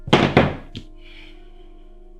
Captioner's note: sigh